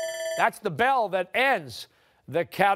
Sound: timer sounding

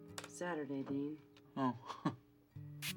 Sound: chuckles

